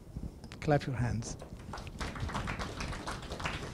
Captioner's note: students applause